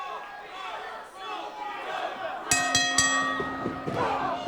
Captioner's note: fans chanting